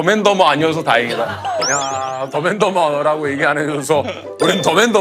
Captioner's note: squabbling